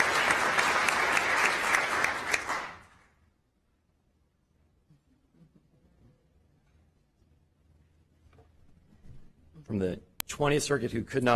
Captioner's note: applause